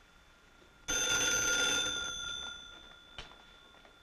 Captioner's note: phone ringing